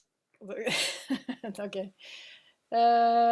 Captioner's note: laughing